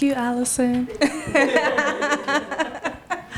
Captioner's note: laughs